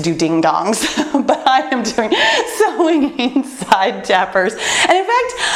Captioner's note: laughs